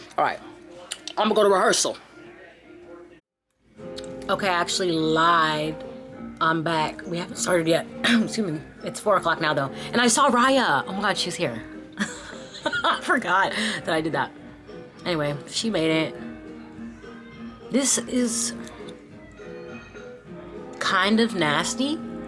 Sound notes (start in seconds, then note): 8.1 coughs; 11.9 laughs